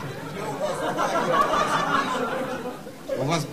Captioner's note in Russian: смех